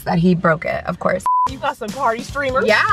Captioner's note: high pitched beep